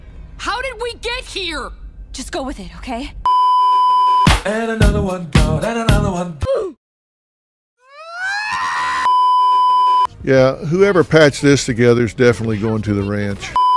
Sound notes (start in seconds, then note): 9.0 beeeeeep; 13.6 beeeeeep